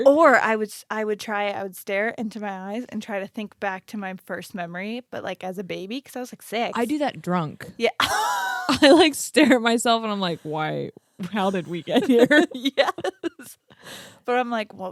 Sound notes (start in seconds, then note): 8.0 laughing